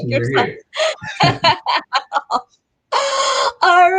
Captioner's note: laughing